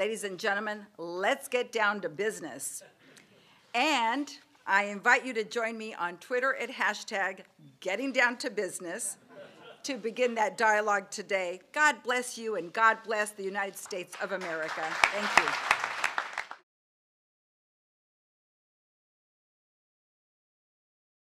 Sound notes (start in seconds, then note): 3.4 laughter; 9.3 laughter; 15.4 applause